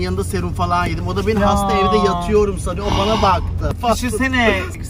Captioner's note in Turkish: iç çeker